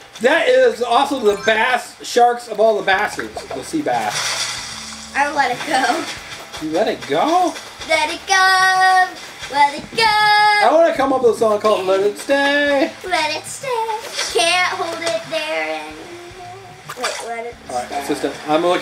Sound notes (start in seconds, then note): 3.0 splashing